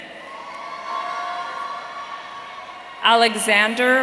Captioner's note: audience cheering